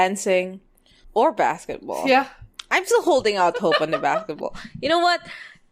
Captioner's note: laughs